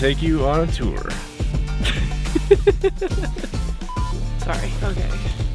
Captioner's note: laughs